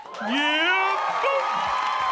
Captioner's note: audience laughing